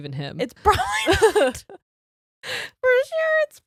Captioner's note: both laughs